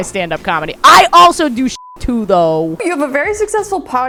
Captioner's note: beep